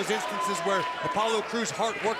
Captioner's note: crowd chatter